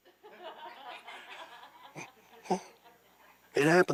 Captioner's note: audience laughing